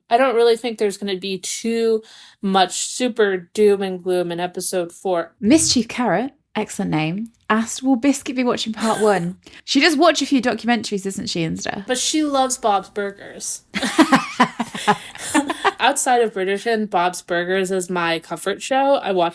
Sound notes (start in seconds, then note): 13.7 laughing